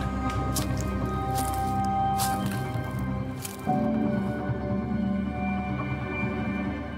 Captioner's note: ominous music; feet stomping